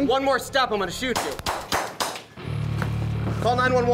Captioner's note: gun fires